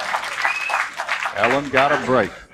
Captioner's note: applause